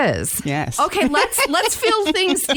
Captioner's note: laughs